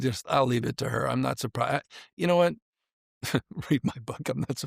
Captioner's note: chuckles